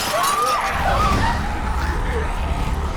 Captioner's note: glass shatters; screaming; growling